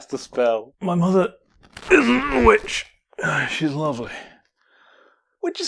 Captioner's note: groaning in pain